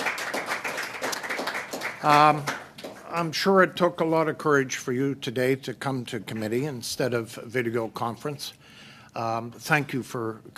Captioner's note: applause